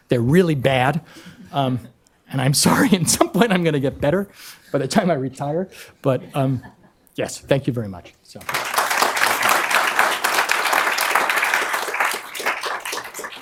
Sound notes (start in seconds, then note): 8.4 applause